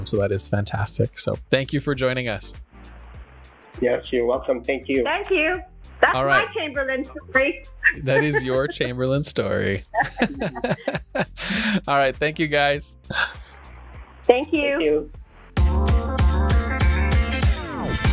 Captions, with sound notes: So that is fantastic. So thank you for joining us. - Yes, you're welcome. Thank you. - Thank you. - All right. - That's my Chamberlain story. - That is your Chamberlain story. (both laughing) All right, thank you guys. - Thank you. - Thank you. (upbeat music)